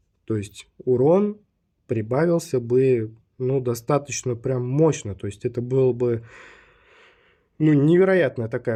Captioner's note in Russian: тяжело вздыхает